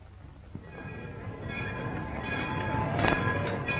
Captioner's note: bells ringing